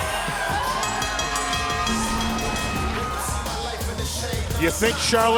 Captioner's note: bell ringing